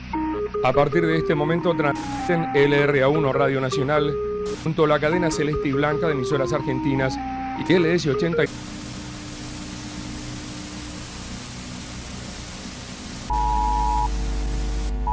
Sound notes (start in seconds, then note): 4.4 interference; 8.0 interference